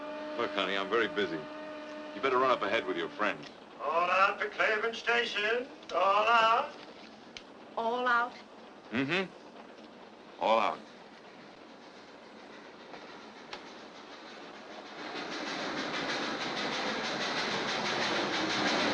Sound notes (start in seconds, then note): 0.0 steam whistles; 12.6 muffled train sounds; 14.6 train braking